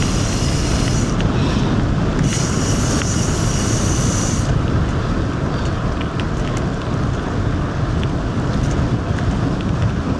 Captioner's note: engine revving